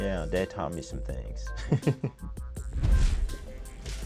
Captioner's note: laughs